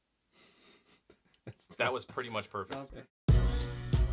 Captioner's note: laughs in the background